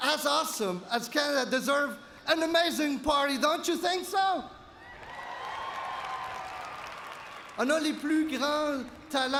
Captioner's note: cheers and Applause